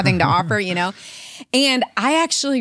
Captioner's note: laughs